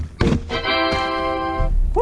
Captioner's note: "tada" noise